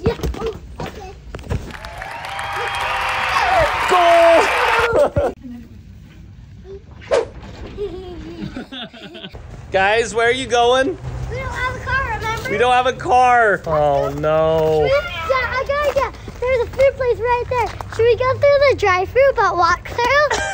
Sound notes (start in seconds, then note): 1.7 overdubbed audience cheering; 7.0 "whoosh" sound effect